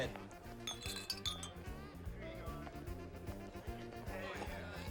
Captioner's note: glasses clinking